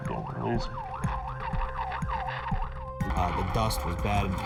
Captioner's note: siren